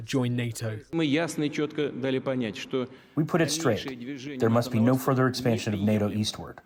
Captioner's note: through translator